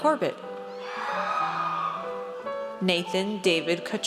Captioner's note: audience cheers